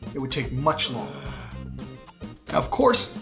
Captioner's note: groaning